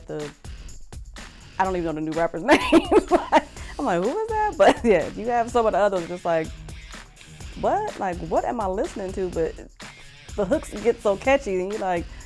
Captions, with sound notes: I don't even know the new rappers' names. (laughing) I'm like who is that? But yeah, you have some of the others just like what? What am I listening to? The hooks get so catchy, and then you like,